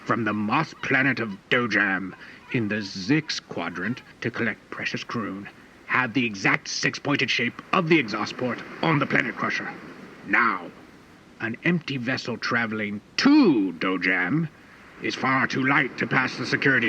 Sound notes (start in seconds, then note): none